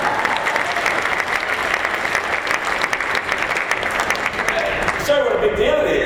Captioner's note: applause